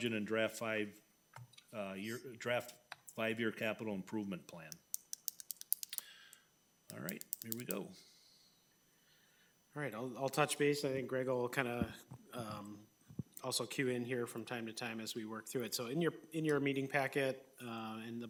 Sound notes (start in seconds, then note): 4.7 pen clicking